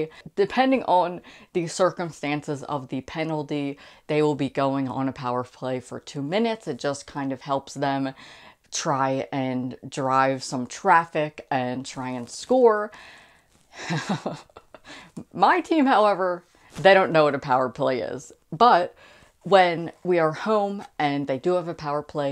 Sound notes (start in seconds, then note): 13.8 laughing